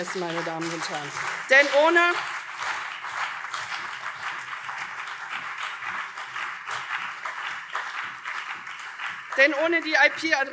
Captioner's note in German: Beifall CDU und vereinzelt SPD